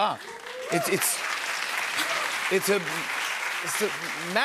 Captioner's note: cheers and applause